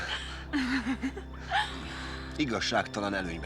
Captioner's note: chuckles